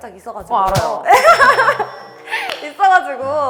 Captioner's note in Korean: ㅋㅋㅋㅋㅋㅋㅋㅋㅋㅋ